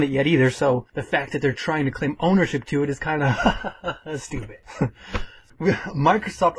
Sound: haha

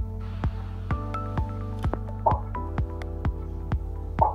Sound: screen pops

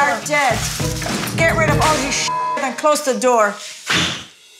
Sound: beep

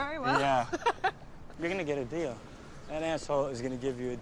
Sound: laughs

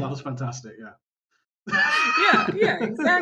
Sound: laughter

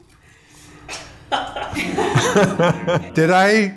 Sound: laughter

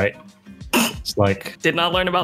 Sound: snorts

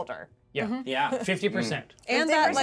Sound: speaker chuckles

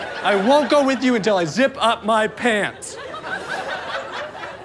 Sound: audience laughter

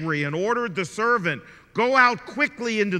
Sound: none

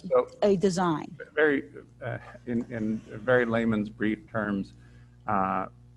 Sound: chuckles

